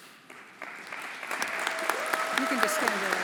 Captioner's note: everyone applauding